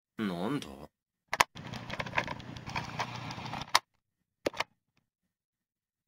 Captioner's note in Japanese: ガチャ、カチャ。キュルル、ガチャ